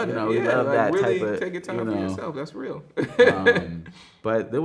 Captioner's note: laughs